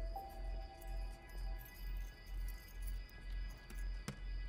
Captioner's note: keys clinking